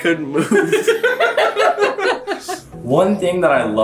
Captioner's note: laughs